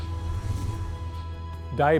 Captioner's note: whooshing; contemplative music